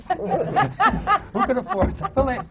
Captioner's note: laughter